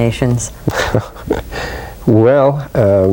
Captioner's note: laughs